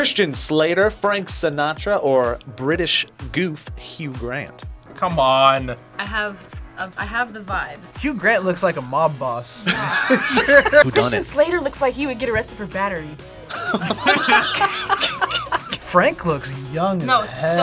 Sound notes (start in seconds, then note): 9.6 both laugh; 13.5 group laughs